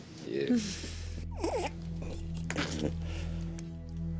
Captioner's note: baby gurgling